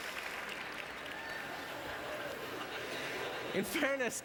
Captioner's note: audience laughter